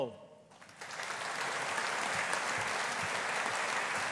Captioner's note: audience applauding